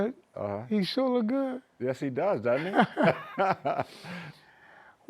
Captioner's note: both laugh